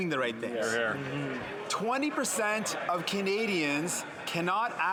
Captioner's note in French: voix de l'interprète